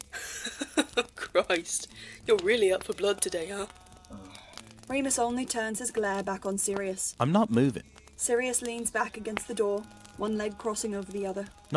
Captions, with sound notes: [James laughs]. “Christ, you’re really out for blood today, huh?” [Remus grumbles] Remus only turns his glare back on Sirius. “I’m not moving,” Sirius leans back against the door, one leg crossing over the other.